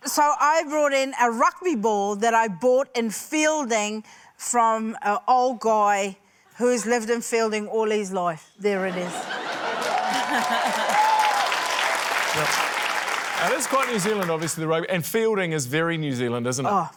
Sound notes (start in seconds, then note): 9.1 laughter, cheering, applause